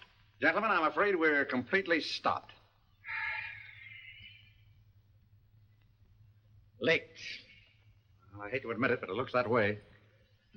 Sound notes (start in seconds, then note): 3.0 Markham sighs